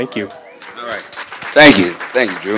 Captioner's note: applause